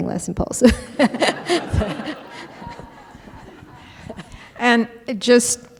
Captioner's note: laughter